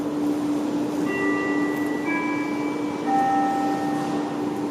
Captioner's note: ding, deng, dong